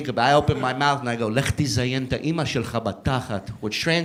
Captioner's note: speaking Hebrew